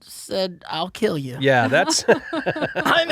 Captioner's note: laughing